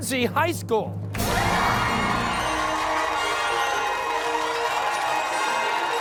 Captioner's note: cheers and applause